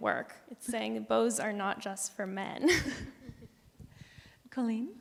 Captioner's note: laughs